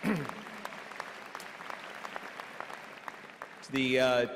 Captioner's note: applause